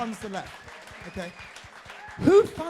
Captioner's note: crowd applauding